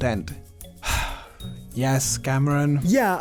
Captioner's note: sigh